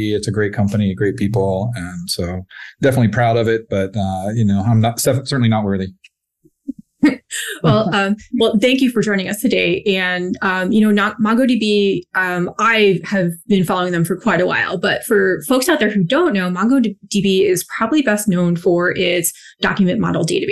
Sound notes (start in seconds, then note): 7.1 laughs